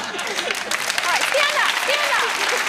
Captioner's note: laughing; clapping